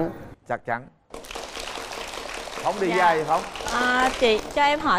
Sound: applause

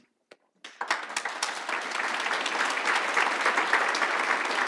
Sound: audience applauds

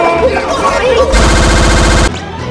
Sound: frantic echoing running/screaming; stuttering impact

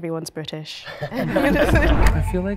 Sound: laughing

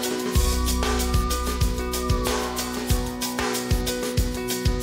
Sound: police sirens wailing

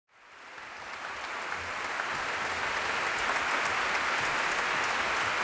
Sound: audience applauding

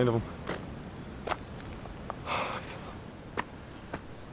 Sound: sighs

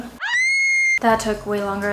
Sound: screams

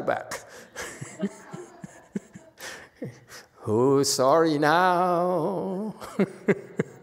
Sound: laughs, audience laughs; laughs

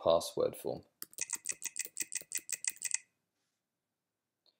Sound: typing

